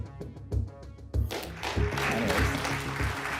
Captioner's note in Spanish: aplausos